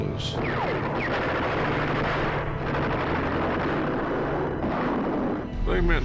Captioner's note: gunfire